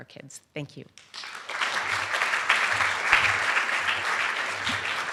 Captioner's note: applause